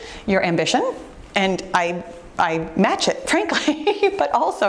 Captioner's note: giggles